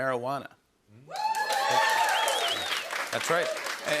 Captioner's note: cheers and applause